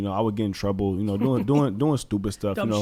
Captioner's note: laughs